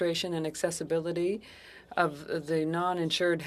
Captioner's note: speaking French